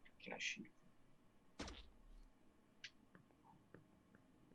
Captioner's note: zap